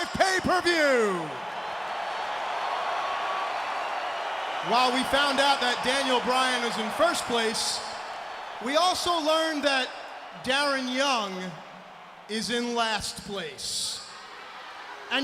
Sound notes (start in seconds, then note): 2.4 crowd cheering